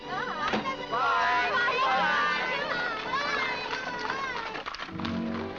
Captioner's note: family shouting goodbyes